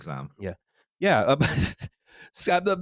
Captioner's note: laughs